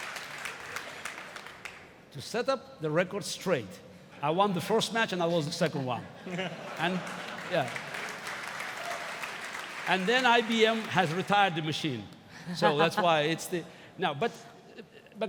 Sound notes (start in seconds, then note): 0.0 applause; 10.3 applause